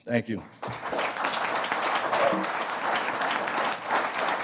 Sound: applause

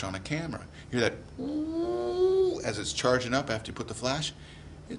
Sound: whines

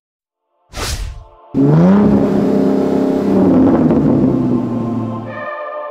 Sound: Saab Viggen engine revving to the limiter

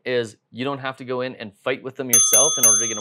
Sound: bell ringing

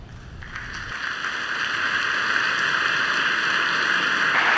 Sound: audience applauding

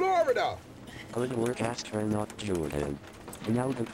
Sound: Robotic voice

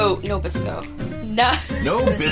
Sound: laughing; laughs

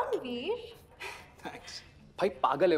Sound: chuckles

